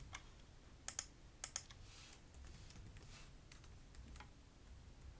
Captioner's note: keyboard clicking